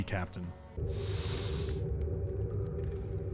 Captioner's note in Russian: нюх